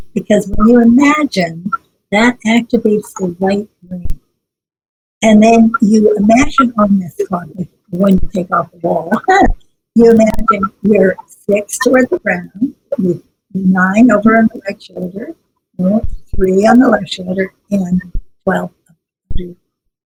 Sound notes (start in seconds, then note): 9.0 laughs